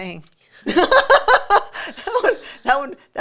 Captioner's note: laughing